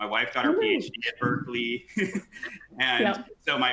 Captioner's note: laughs